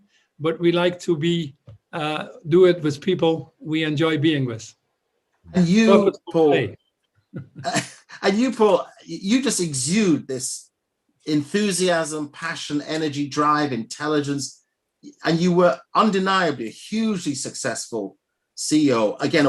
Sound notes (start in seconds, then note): 7.3 laughter